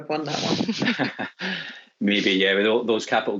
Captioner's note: laughs